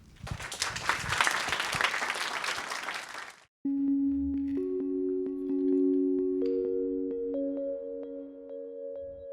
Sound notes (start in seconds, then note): 0.0 audience clapping; 3.7 light ambient music